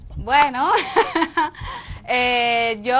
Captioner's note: laugh